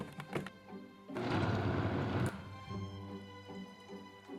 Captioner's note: blender running